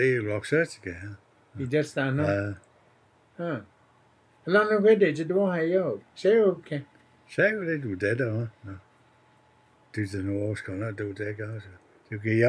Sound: speaking Cherokee in interview; speaking Cherokee in interview

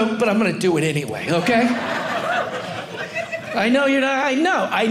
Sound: audience laughing

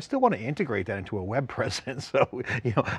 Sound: laughs

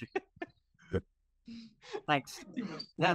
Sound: laughing

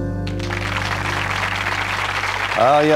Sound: applause

